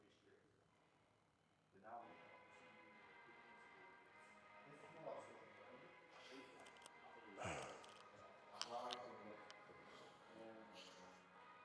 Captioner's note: sighing